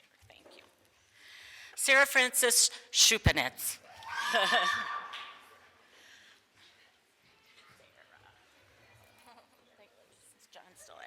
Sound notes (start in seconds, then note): 3.8 small group cheers; 8.2 speaks off microphone